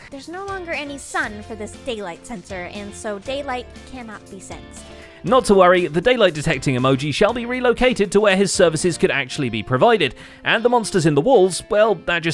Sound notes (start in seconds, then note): none